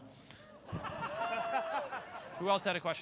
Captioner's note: crowd laughter